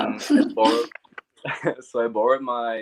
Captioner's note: laughs